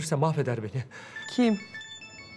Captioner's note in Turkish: Telefon zili